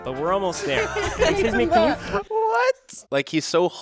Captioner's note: all laughing